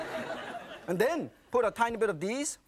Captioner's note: audience laughing